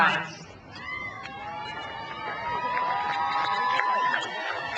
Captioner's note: crowd cheers